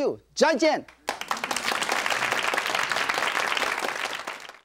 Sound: audience claps

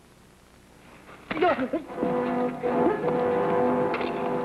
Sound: Sam grunting

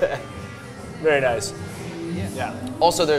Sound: laughs

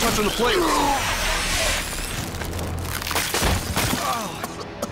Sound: foam blasting

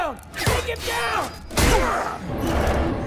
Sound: grunting

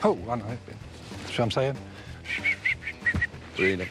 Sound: whistling

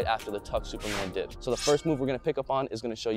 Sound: whoosh

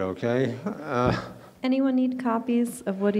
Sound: laughing

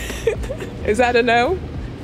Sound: giggles

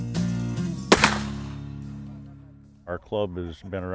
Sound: loud crack!

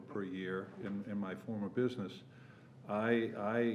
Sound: none

